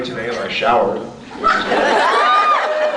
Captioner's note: laughs; laughs, screams